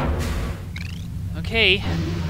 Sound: chirp

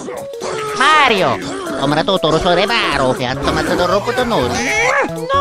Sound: italian gibberish

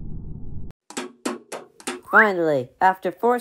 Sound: hammering

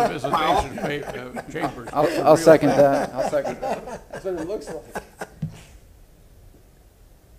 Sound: laughter; laughter

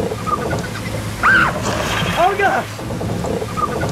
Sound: screams

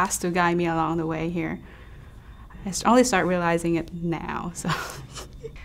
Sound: laughs

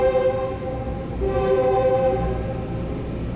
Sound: train horn

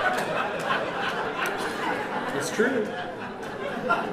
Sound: laughter

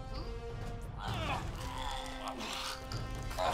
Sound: grunting

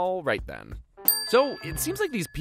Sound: dings

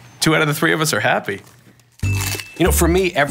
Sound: ding

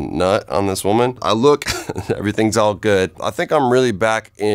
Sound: laughs

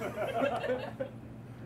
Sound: laughter

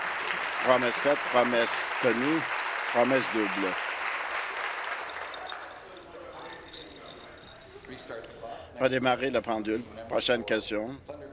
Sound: applause

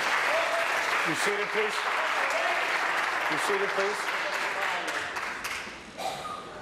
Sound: applause

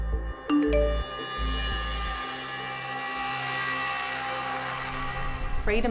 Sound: ominous music; notification beep

